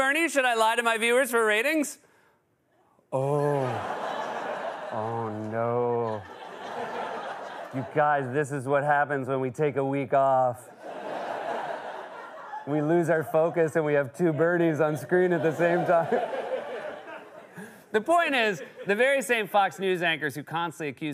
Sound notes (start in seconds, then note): 3.4 laughter; 10.7 laughter